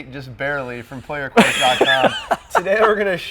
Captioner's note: laughing